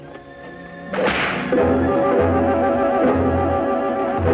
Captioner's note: whip cracks